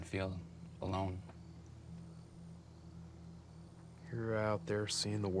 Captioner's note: crickets chirping